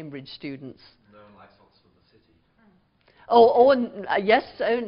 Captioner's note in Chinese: 無聲